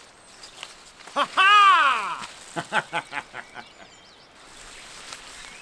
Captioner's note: Bill Murray Style Laugh Sound